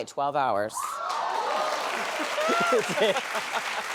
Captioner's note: applause